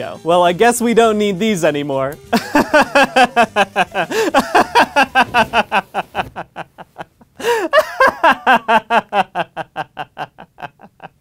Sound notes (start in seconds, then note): 2.3 wild laughter; 7.1 frightening laughter